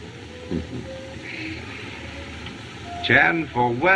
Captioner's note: chuckles